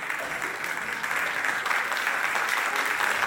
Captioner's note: audience clapping